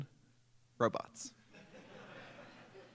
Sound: laughter

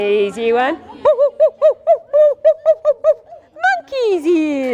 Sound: hoots

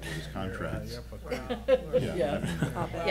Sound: laughing

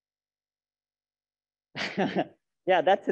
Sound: laughs

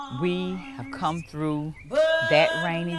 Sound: birds chirping

